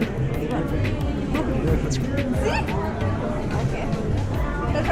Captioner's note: speaking foreign language